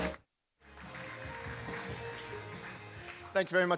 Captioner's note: applause